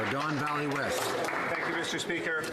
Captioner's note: some Applause